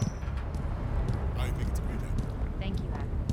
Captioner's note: voices starting far and getting closer